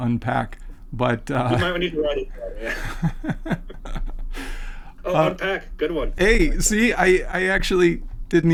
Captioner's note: laughing